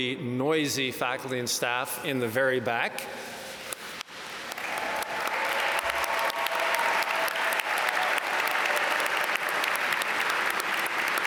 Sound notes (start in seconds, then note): 4.1 audience applaud